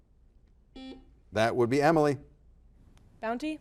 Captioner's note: buzzer buzzes